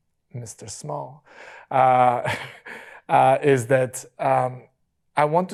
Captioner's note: chuckles